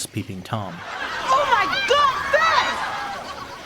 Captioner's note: off-screen laughter